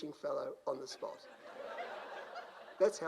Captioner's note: crowd laughs